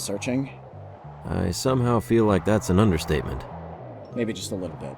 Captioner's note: audible gusts of wind